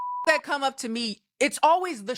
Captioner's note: beep